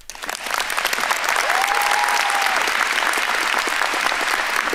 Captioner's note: audience applauding